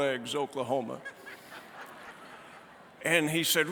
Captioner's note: laughter